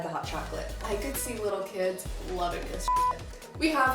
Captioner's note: beeps